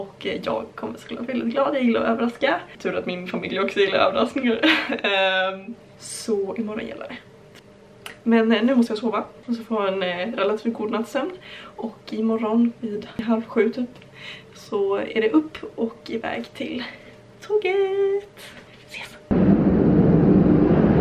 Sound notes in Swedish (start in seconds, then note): 4.6 skratt